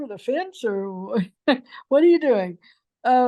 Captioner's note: laughs